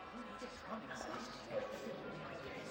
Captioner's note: people chattering